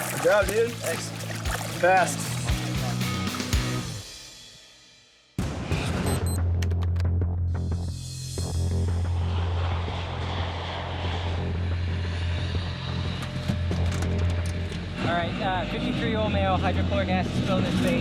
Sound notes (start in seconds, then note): 6.0 beeping; 9.3 aircraft engines whirring